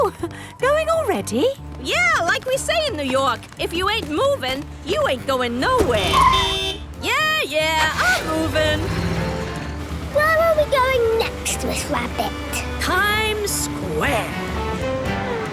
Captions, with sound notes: - Oh! Going already? - Yeah, like we say in New York, if you ain't movin', you ain't goin' nowhere! (honking) Yeah, yeah! I'm movin'! - Where are we going next, Miss Rabbit? - Times Square!